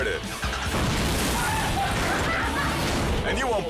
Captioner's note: car explodes